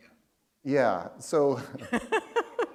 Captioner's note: laughter